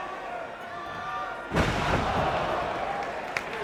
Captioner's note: Mike Awesome slamming; crowd clapping